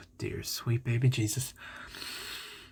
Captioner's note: inhale of questionable intent